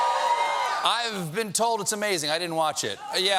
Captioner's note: cheering